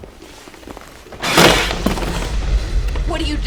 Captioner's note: thunder & lightning